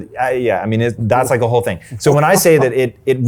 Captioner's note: chuckles